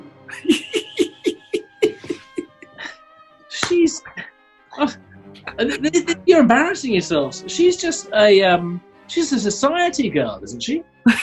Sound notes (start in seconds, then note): 0.2 giggling; 5.2 stammers